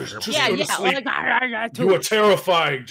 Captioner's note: growls